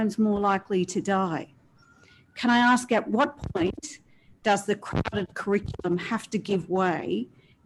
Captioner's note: audio distorted